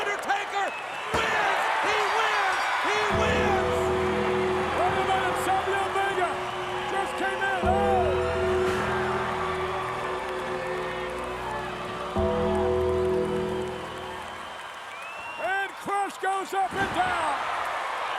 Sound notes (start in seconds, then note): 3.3 bell dings; 3.3 eerie organ music